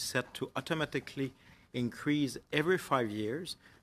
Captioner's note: speaking French